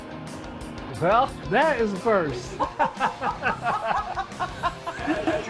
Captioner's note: laughter